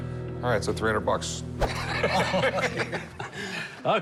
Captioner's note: laughter